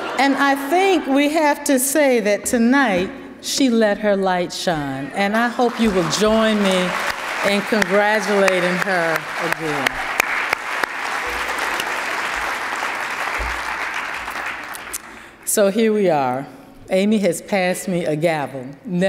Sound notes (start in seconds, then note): 10.2 attendees applauding